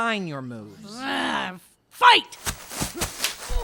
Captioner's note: groans